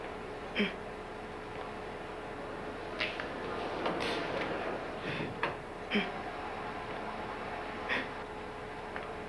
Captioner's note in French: Rivest pleure de plus belle